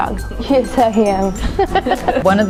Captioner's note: laughter